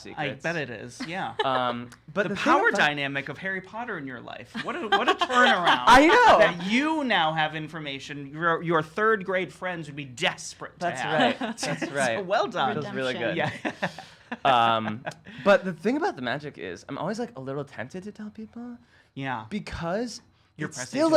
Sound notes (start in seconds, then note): 11.0 laughs